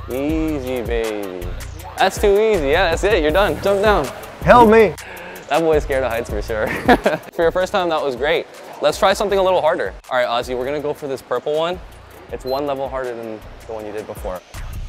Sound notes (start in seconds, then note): 6.5 laughs